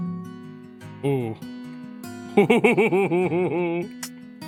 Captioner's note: laughs